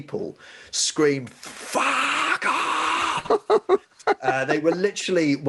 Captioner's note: laughing